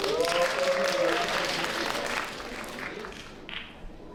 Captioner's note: applause